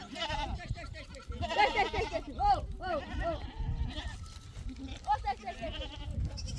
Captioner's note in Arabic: ضحك